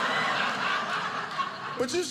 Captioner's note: audience laughing